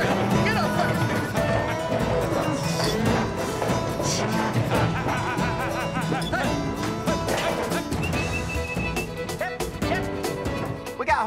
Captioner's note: calling, whistling